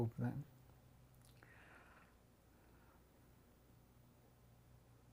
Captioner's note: pause 7 seconds